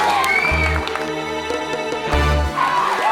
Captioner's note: cheering